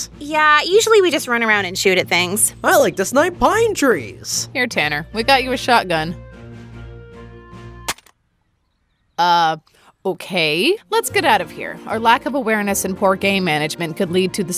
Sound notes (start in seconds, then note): 7.8 gun breaks